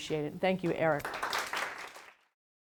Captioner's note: applauding